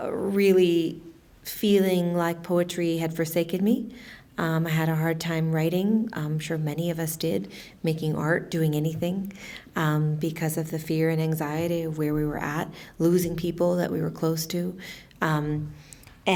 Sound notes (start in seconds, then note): none